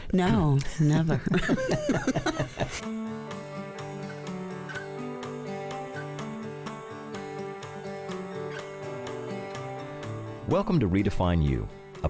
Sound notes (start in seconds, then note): 0.3 laughing; 3.1 upbeat music